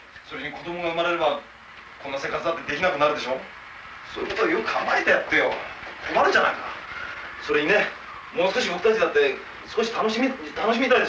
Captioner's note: Japanese speaking